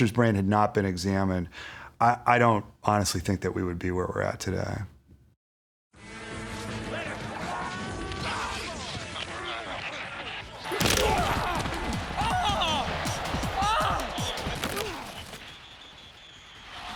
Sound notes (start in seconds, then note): 11.9 grunting